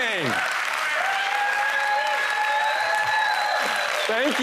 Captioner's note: applause